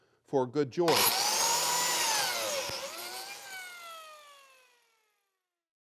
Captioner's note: biscuit cutter whirring